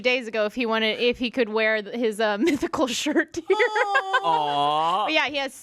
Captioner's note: laughs